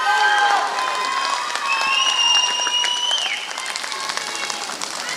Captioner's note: applause